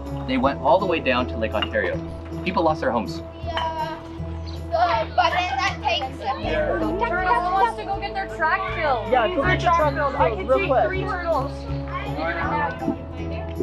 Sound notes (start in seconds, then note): 3.9 general chatter